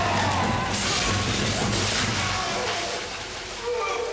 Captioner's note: screams; yells